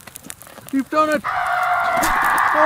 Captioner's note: john screams